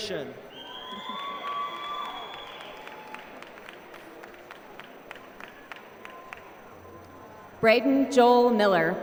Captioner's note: applause